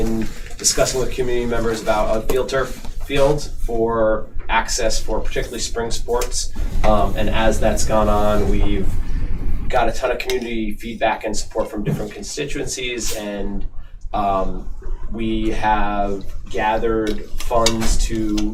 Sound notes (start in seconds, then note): none